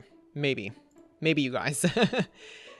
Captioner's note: laughs